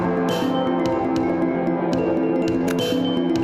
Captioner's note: none